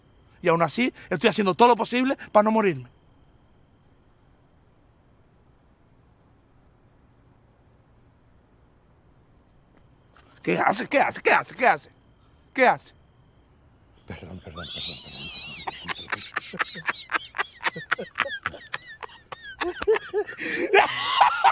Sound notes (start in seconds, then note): 15.4 juan laughs; 19.1 laughs